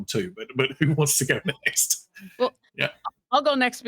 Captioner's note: chuckling